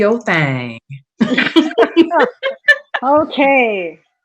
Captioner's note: laughs loudly